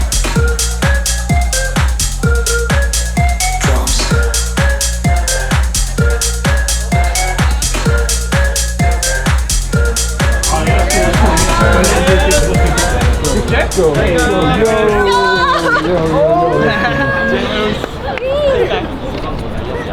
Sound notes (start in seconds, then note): 6.2 techno music; 15.4 fan shouts